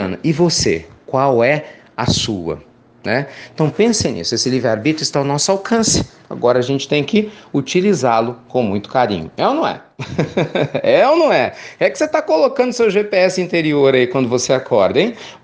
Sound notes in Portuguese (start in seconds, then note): 10.0 risos